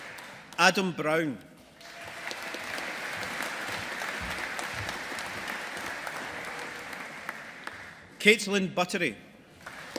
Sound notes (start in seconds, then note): 1.8 audience applauding; 9.6 audience applauding